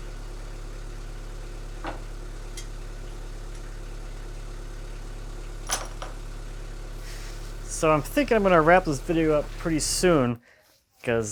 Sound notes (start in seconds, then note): 3.2 metal clanging